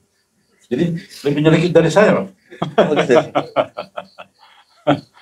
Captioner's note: laughs